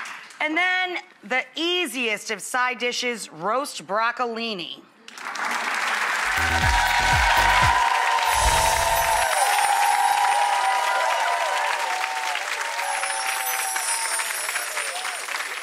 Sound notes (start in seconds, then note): 5.3 clapping and cheering